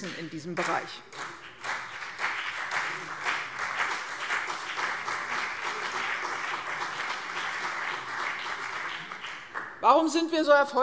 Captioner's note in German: Beifall CDU und BÜNDNIS 90/DIE GRÜNEN